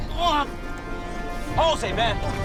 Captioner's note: grunting